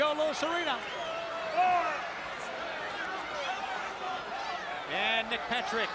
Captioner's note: crowd chatter